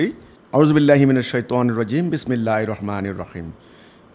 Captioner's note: Arabic